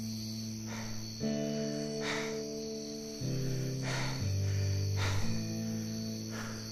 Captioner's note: dramatic panting